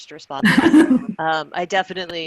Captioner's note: chuckling